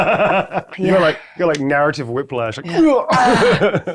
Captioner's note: grunting; players laughing; grunts; players laughing